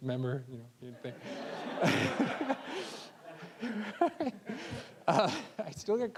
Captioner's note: all laughing